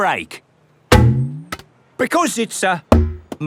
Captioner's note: thunks